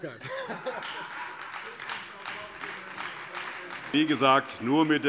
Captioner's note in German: Beifall Freie Demokraten